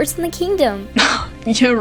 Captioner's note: Catrix scoffs